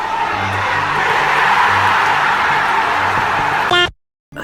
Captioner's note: cheering